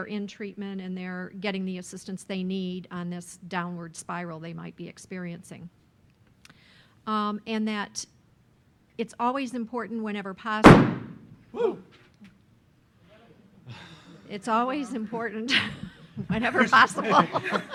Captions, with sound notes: in treatment, and they're getting the assistance they need on this downward spiral they might be experiencing. And that it's always important whenever possible. [Bang] Whew! It's always important whenever possible [Laughs] [Laughing]